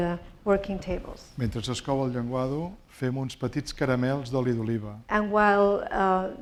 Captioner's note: speaking spanish